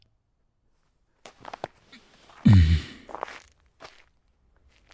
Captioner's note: snow crunches